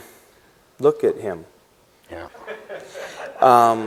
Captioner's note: laughter